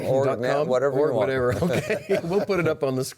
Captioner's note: laughs